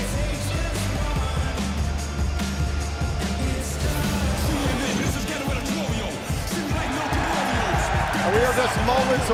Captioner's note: crowd cheering